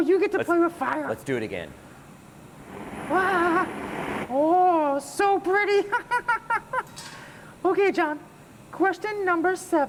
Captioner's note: fire sound